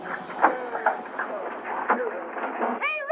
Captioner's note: commotion